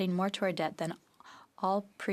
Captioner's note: speaking French